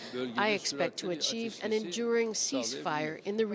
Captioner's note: speaking Foreign Language